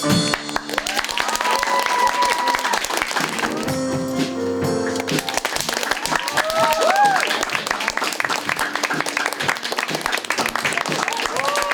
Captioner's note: applause